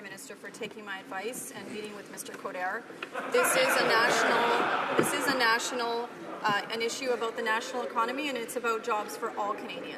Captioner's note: some Applause